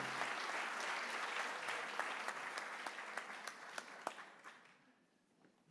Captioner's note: applause